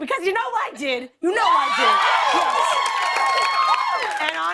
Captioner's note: cheers and applause